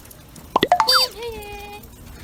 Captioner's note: horn and beep